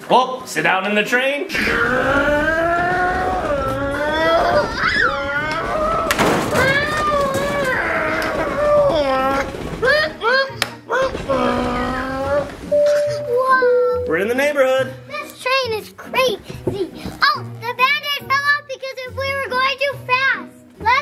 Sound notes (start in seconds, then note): 1.6 vroooming noises